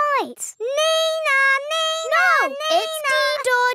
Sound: imitates siren

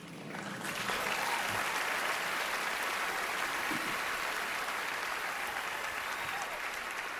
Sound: cheering, applause

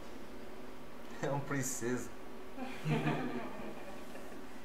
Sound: laughs

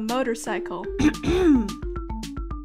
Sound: ahem

